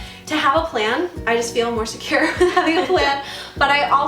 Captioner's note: laughing